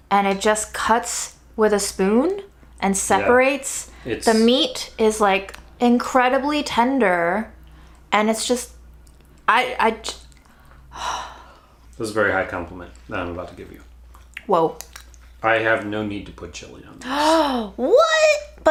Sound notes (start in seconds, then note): 10.9 sighs; 17.1 gasps